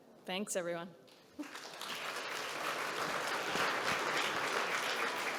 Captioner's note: audience clapping